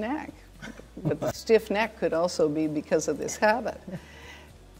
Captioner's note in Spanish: risas